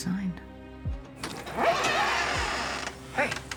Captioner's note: door creaking